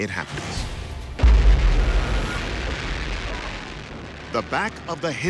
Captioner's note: explosion booming